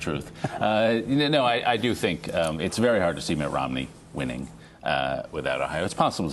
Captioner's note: laughter